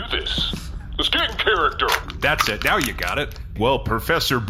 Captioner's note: crushes can